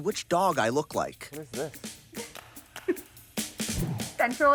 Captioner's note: laughs